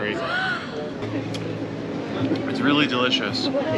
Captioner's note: gasps